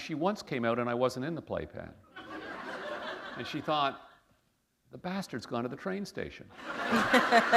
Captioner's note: laughter